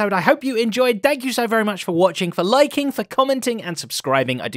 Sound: none

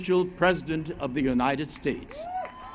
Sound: applause

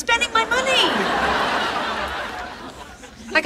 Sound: audience laughing

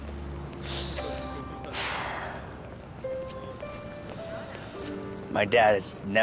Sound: somber music; Eric inhales and exhales

